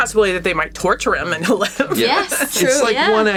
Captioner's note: laughs